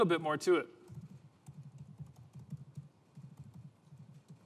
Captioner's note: typing sound